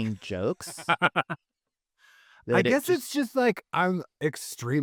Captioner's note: laughing